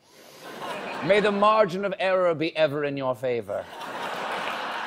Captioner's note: laughter